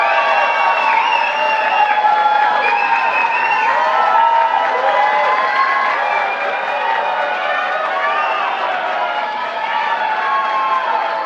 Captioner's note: applause